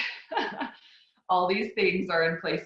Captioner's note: laughs